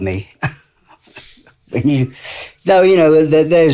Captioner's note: chuckles